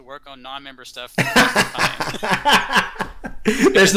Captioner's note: laughter